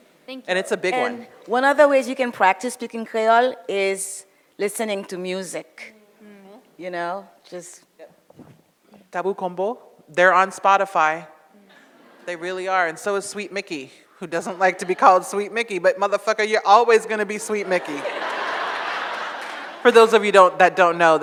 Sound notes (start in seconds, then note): 9.6 speaks foreign language; 17.2 audience laughs